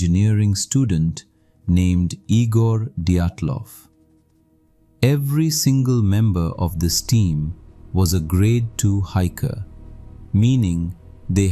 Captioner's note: breath